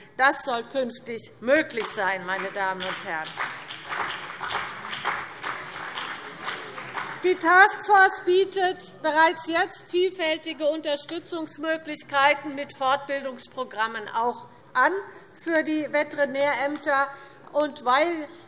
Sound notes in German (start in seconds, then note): 4.1 Beifall CDU und BÜNDNIS 90/DIE GRÜNEN